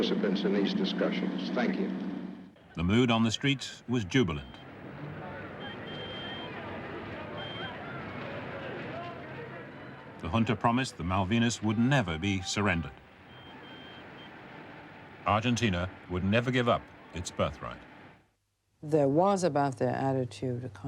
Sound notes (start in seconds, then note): 5.0 people chattering; 5.3 car horn honking